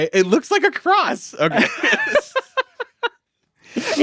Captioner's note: laughs